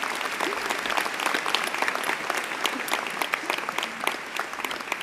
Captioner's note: applause